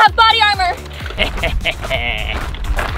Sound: evil laughing

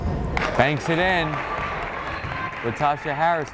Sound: crowd applauding

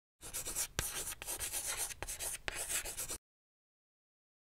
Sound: chalk scratching

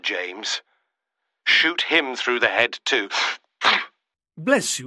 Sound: he sneezes

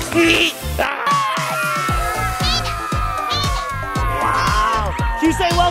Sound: kids making animal noises

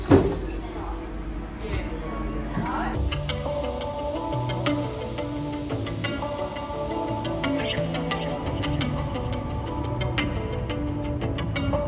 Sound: car door opening

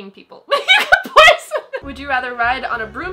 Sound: laughing

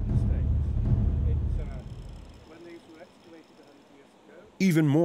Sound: indistinct chatter

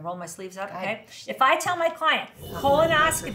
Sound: mic dragging

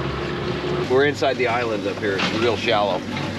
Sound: boat engine running; water lapping

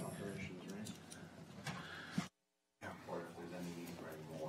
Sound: speaking off mic

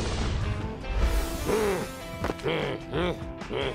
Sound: growls

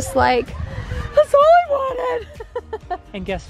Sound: laughs

